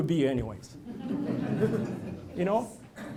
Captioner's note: laughter